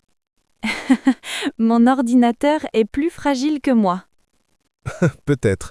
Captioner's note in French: rire